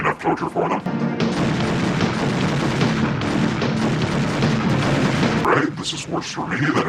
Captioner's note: action music; guns shooting